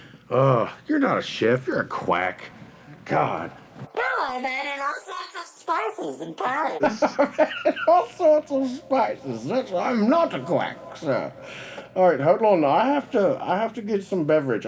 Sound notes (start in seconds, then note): 7.5 laughs! Says in a British accent